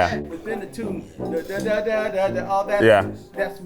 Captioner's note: vocalizes